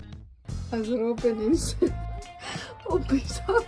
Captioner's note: laughing